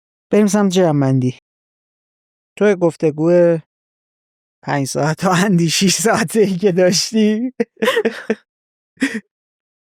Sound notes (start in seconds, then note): 7.6 laughs